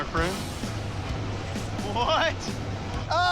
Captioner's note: chuckles